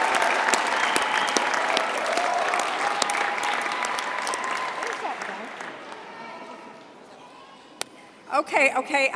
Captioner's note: applause